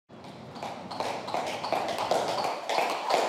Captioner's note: jump ropes clack